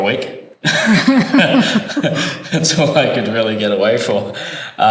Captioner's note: laugh